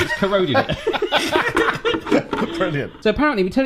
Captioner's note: laughs